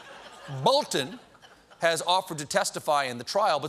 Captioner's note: laughter